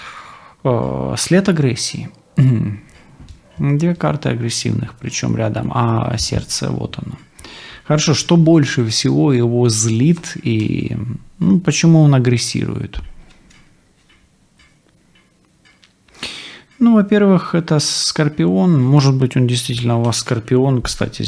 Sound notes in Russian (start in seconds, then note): 2.3 откашливается